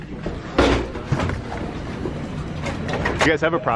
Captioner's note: clatters